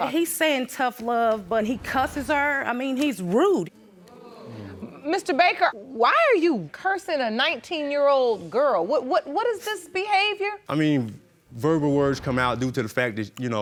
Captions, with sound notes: He's saying "Tough love" but he cusses her, I mean, he's rude. (AUDIENCE GROANS) Mr. Baker, why are you cursing a 19-year-old girl? What is this behavior? I mean, verbal words come out due to the fact that, you know,